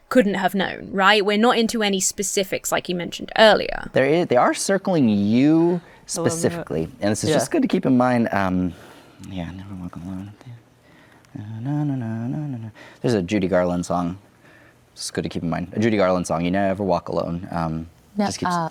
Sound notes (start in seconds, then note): 9.9 mumbles; 11.3 hums a tune